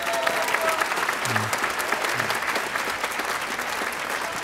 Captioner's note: audience applauding